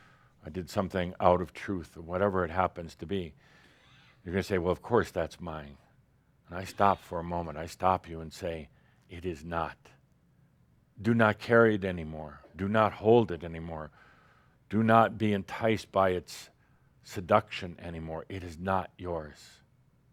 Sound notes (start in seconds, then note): none